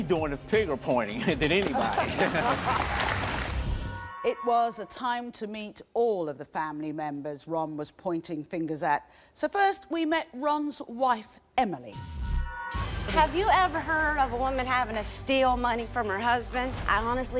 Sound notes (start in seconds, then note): 1.2 laughs; 3.1 audience applauds